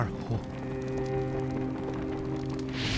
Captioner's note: fires crackling